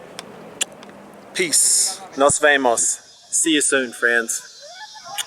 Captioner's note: kissing sound